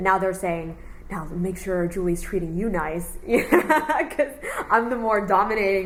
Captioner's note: laughs